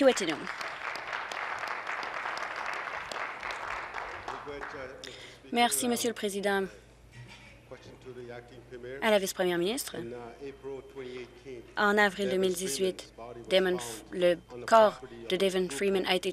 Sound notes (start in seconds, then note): 3.3 applause